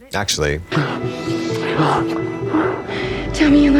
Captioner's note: Shauna and Jeff moaning